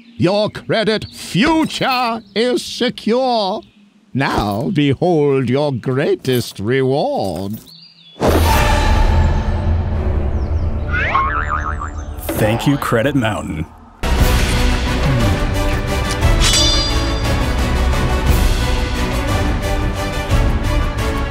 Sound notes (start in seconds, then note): 8.2 musical sting; 14.4 kissing noises; 16.0 sword clanging